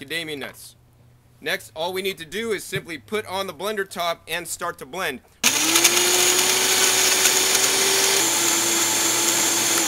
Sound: blender mixing

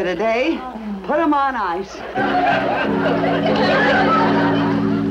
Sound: audience laughs; choir harmonizes

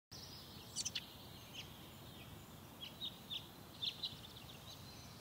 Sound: brids Chirping

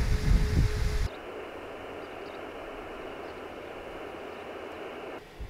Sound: audible radio static

